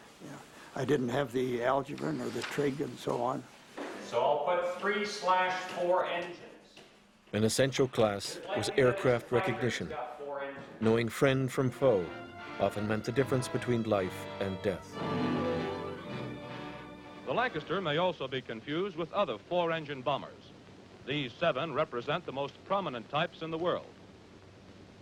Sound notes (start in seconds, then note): 14.5 old band music; 16.6 voiceover